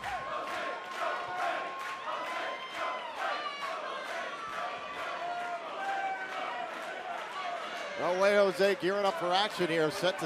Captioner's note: fans chanting